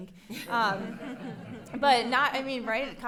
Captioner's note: people laughing